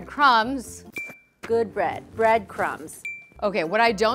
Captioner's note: ping; ping